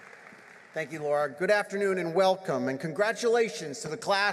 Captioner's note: applause